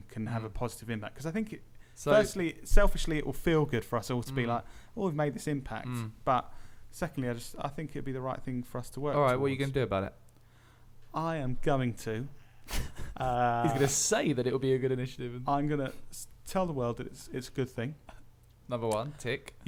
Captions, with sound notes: can have a have a positive impact Because I think firstly selfishly it'll feel good for us all to be like Oh, we've made this impact but Secondly, I jus think it'll be the right thing for us to work towards Alright, what are you going to do about it? I am going to… *chuckles* He's going to say that it will be a good initiative I'm going to tell the world that it's a good thing Another one… tick!